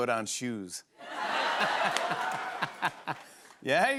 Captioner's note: laughter